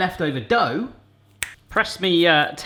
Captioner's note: snap